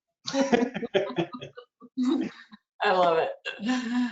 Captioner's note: chuckling